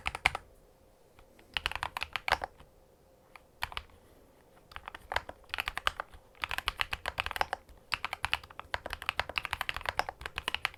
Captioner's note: keystroke sound